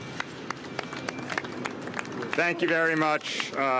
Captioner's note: applause